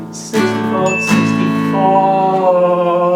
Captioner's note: alarm Sounds